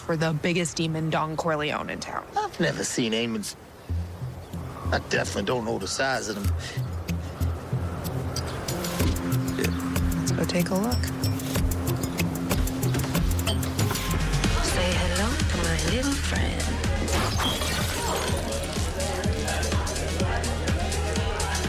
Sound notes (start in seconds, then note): 17.1 bottle shattering; 18.3 upbeat house music